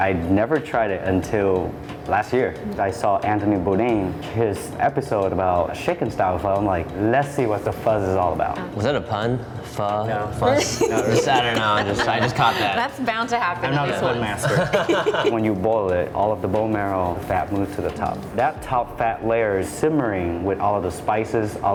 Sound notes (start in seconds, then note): 10.5 laughs; 14.4 all laugh